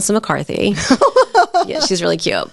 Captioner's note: laughs